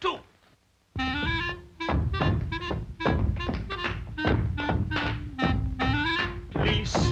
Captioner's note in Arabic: تعزف على الكلارينيت; أقدام تدوس